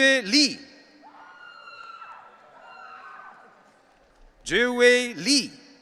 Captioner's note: audience cheering